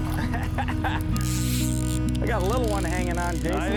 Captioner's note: laughing